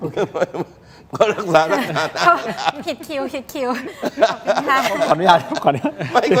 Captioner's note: laughter; laughter